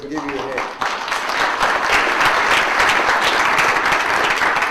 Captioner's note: audience applauds